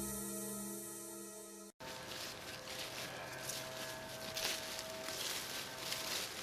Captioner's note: leaves rustling; sounds of cutting machines in distance